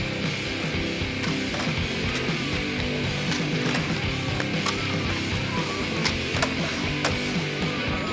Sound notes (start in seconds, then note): 3.6 faint shouting